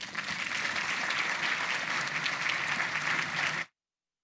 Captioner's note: audience applauding